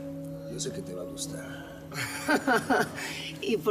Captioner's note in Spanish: Risas